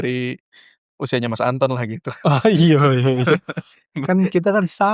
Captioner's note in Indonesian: tertawa